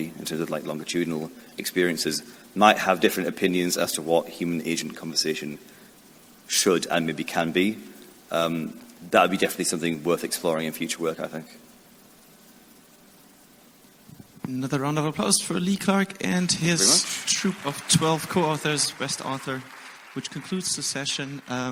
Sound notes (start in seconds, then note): 16.8 audience applauds